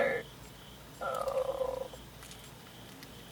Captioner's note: cries